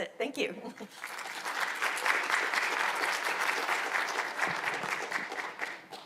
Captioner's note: attendees applauding